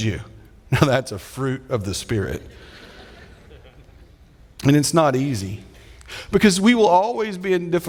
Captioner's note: audience laughing